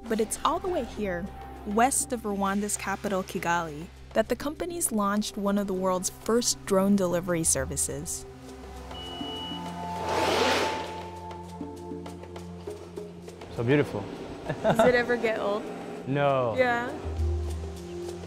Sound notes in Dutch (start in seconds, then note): 14.5 lacht